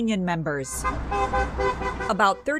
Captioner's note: horn honking